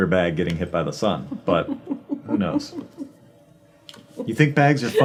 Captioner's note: laughing